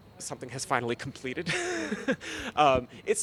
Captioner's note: laughing